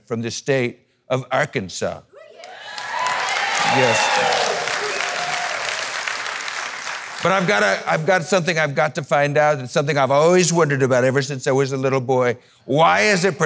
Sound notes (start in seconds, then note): 2.4 applause